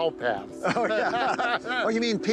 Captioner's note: both laugh